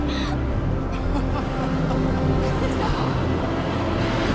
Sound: laughter

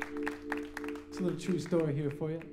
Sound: applause

